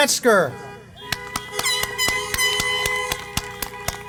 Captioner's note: applause